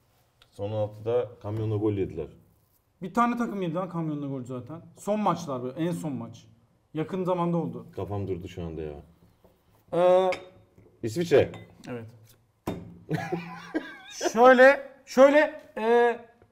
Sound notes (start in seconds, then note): 13.2 laugh